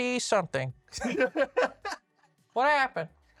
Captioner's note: laughs